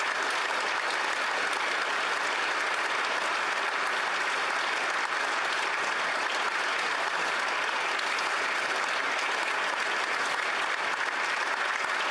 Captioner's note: applause